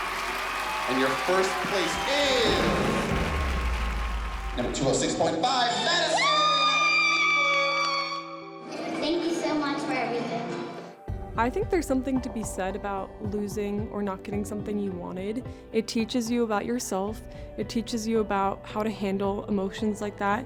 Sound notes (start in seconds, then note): 5.8 screaming